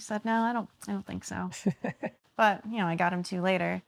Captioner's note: laughing